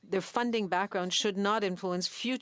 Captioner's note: speaking French